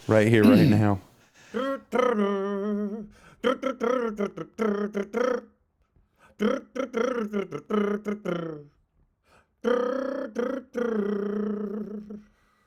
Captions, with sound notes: Right here, right now. (humming) (humming)